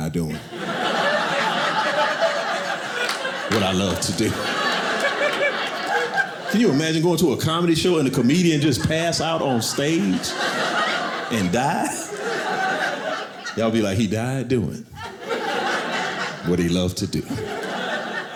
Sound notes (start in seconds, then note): 4.5 audience laughing; 12.0 audience laughing